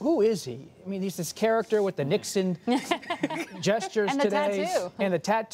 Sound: laughter

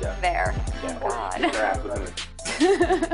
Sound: laughs

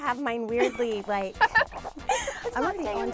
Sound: laughs

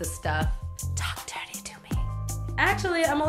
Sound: whispering

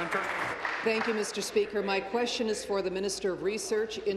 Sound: applause

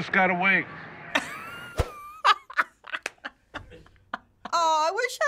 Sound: laughing

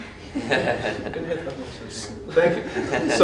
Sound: laughing

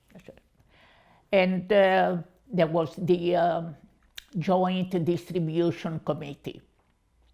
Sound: English

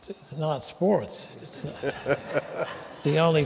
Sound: laughter

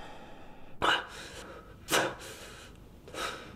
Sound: gasps

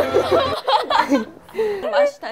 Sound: tears

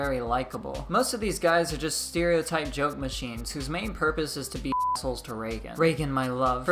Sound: beep

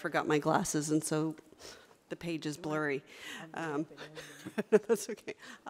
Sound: laughs

